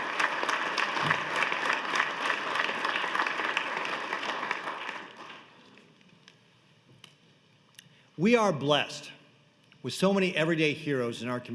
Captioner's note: applause